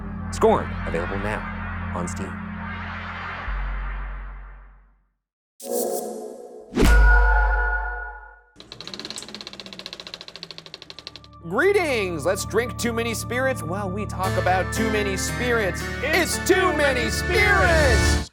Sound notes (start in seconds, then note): 8.6 soft rattling